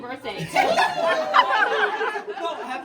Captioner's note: laughter